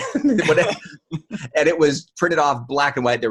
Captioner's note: laughing